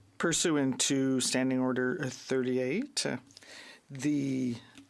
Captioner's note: speaking French